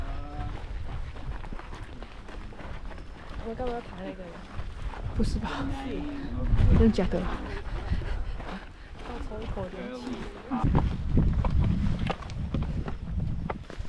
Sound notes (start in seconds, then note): 9.0 gasps